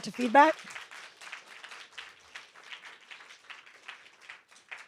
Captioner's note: applause